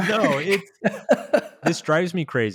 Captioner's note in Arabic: يضحك